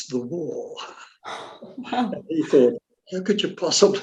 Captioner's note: laughs